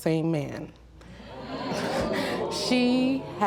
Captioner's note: audience clamoring